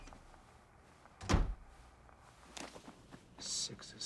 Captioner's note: door closes